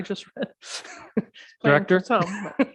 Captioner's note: chuckling